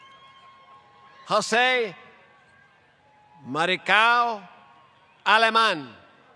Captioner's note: applause